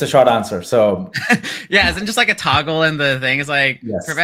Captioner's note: laughs